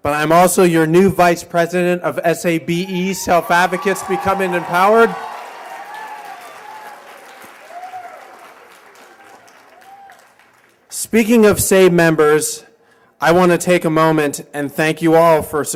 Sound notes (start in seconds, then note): 6.0 cheers and applause